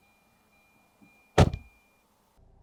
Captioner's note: door Thud